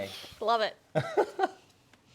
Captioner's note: laughing